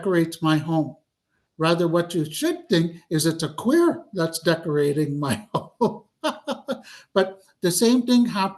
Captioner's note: laughs